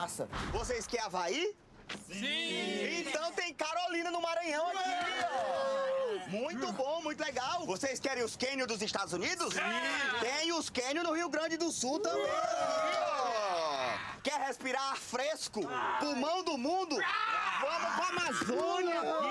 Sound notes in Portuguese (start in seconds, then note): 4.7 todos aclamando; 9.3 todos aclamando; 12.1 todos aclamando; 16.9 todos gritando